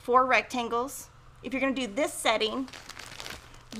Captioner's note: plastic crinkling